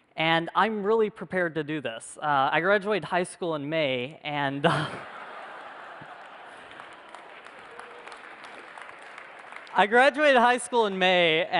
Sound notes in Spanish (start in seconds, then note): 4.6 Risas; 5.4 Aplausos